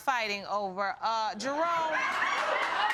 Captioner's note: audience laughing